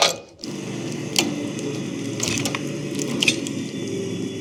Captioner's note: machinery humming